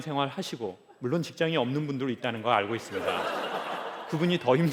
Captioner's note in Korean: 웃음